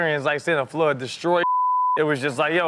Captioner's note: beep